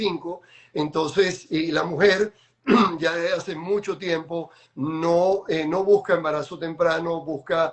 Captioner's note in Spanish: carraspeo